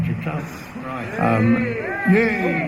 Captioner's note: crowd cheer